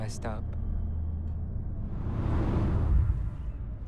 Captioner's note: ominous rumbling